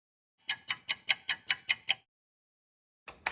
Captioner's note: sound of a ticking clock